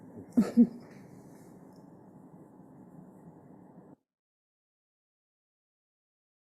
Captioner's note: laughs